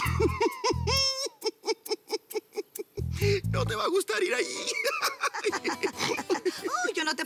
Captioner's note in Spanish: Risas